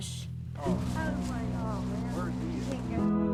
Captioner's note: indistinct chatter